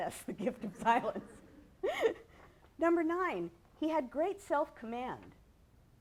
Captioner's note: laughs